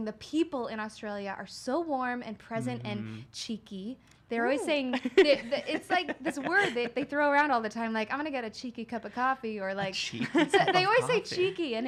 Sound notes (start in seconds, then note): 4.6 laughs